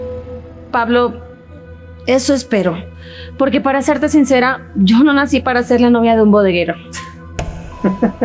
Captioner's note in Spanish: risas